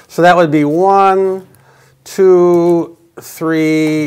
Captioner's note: none